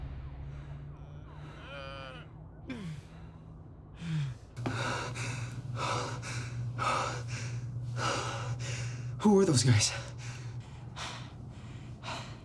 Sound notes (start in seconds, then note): 0.8 groaning; 5.0 breathing heavily